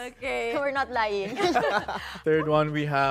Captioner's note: laughter